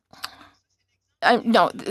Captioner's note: speaking French